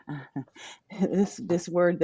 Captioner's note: laughs